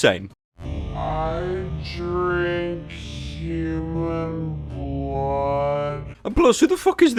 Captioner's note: "I drink human blood" slowed down for comedic effect